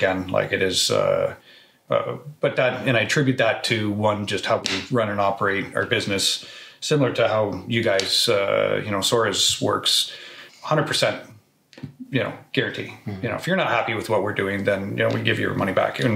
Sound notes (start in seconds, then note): none